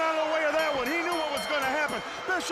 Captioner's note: bell ringing